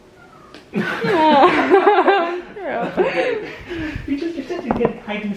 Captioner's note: both laughing